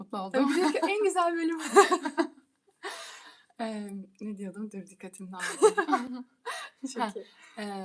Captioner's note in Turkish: kahkaha